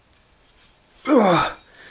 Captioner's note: grunting